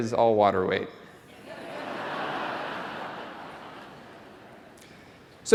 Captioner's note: laugh